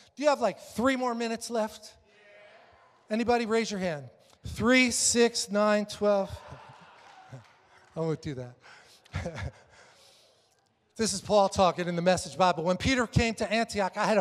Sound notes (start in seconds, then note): 6.1 congregation laughs